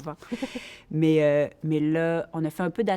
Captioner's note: laughter